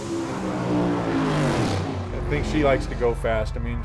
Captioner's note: engines revving